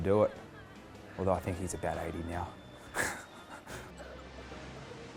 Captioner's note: laughs